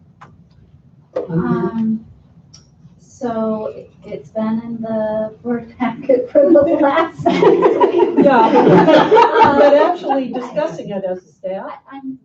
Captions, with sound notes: - So, it's been in the board packet for the last-- (laughter) - But actually discussing it is that.